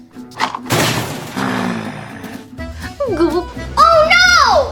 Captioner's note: boom